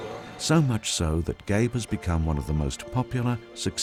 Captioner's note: voiceover